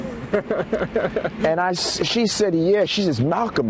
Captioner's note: laughs